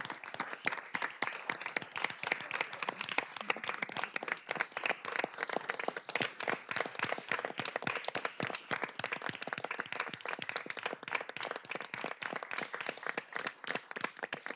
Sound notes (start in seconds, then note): 3.6 applause